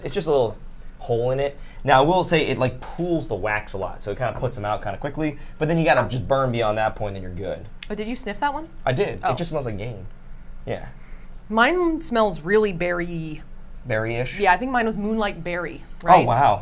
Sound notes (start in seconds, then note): 10.9 sniffs